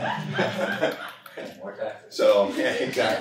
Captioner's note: laughter